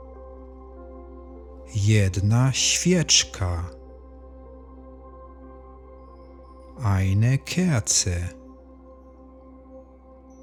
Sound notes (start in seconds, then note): 8.4 german